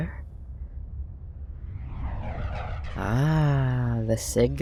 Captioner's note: small whoosh